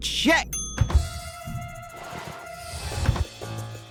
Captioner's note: door open